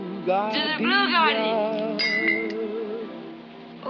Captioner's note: glass shatters